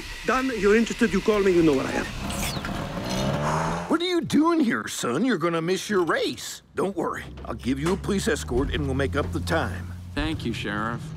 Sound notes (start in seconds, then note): 1.2 engine revving; 3.1 sigh